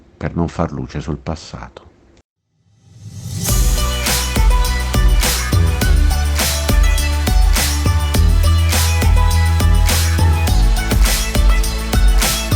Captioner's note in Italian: Applauso